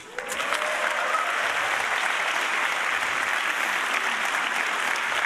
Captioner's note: audience cheering